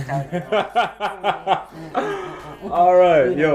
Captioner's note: laughs